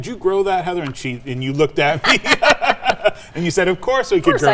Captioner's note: laugh